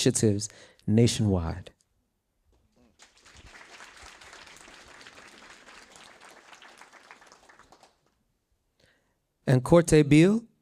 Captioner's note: applause